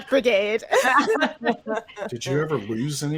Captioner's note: all chuckling